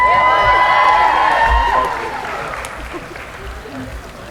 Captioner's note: cheering